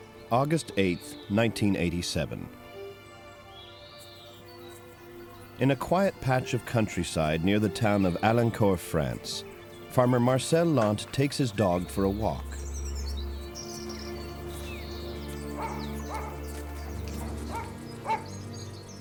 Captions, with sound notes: August 8th, 1987. In a quiet patch of countryside near the town of Elancourt, France, farmer Marcel Launt takes his dog for a walk. (dog barks)